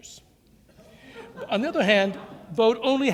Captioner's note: laughter